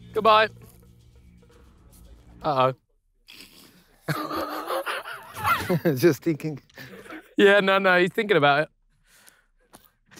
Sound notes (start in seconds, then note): 3.7 Ethan laughs